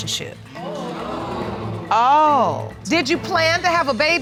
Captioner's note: audience exclaim